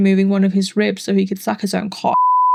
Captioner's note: beep